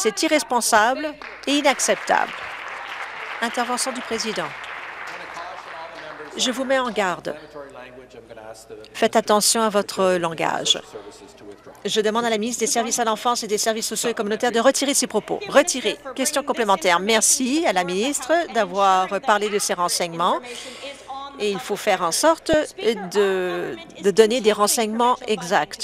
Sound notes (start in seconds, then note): 4.3 applause